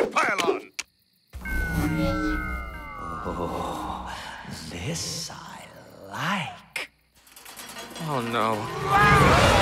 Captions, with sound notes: Operation Pile On! [OVERLOAD POWERING UP] Oh, this I like. Oh, no.